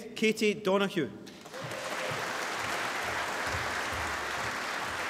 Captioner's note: applause